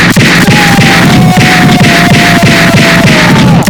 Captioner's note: shouts